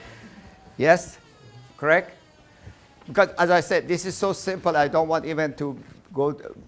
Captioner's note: laughing